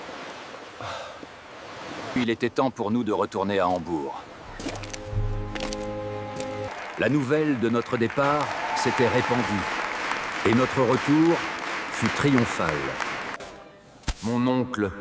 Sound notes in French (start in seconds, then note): 10.2 applaudissements